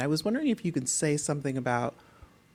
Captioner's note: none